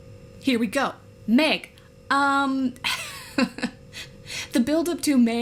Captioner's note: laughs